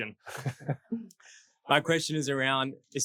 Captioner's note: laughing